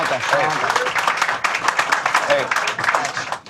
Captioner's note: applause